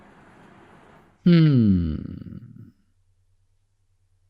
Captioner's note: exhale